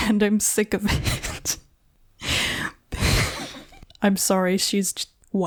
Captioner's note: stops to laugh at the audacity